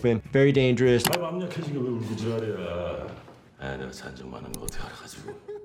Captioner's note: man speaking in foreign language; mouse clicks; man crying